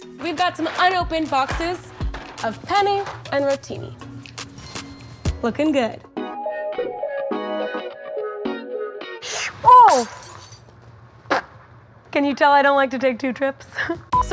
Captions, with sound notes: We've got some unopened boxes of penne and rotini. (bell chimes) Looking good. (upbeat music) Whoosh, whoa! (glass shatters) Can you tell, I don't like to take two trips?